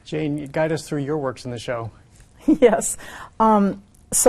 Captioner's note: chuckles